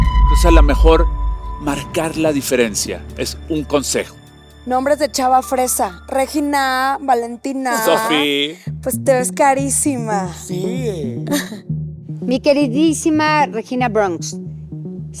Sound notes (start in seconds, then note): 8.7 in rich girl voice